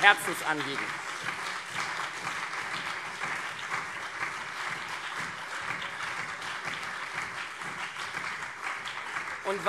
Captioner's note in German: Beifall CDU und SPD